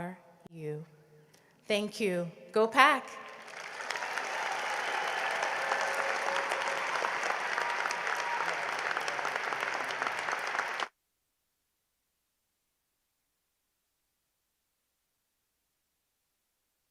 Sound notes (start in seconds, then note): 3.2 cheering and applause